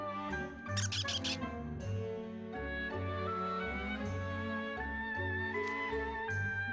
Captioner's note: squeaks